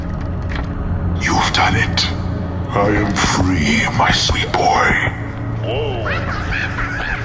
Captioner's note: laughing